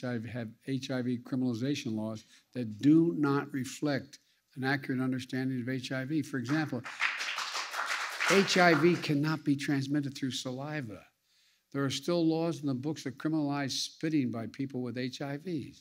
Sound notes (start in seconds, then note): 6.4 applause